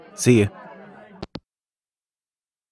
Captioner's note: hangup